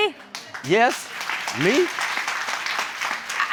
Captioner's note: applause